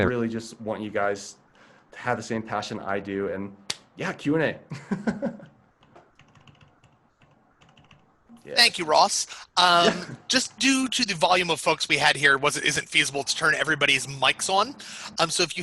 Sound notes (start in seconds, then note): 4.8 laughs